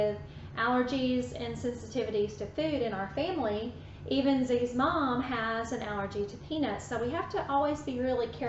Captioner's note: none